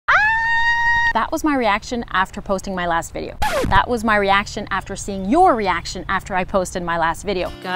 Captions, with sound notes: (SCREAM) That was my reaction after posting my last video. That was my reaction after seeing your reaction after I posted my last video.